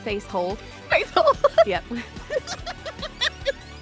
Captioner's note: giggles